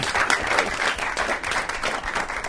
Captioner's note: applause